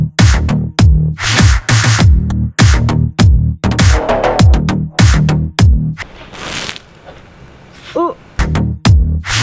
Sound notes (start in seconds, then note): 6.5 water splashing